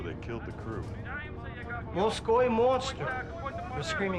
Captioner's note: shouting continues